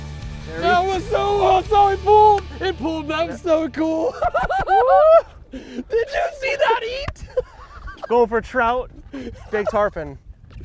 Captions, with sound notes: - That was so awesome. It pulled, it pulled but . that was so cool. (cheering) (laughter) Did you see that eat? - Going for trout. Big tarpon.